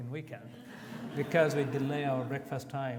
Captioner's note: audience laughs